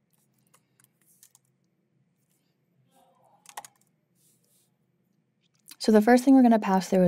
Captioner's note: keyboard clacking continues